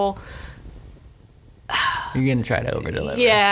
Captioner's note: sighs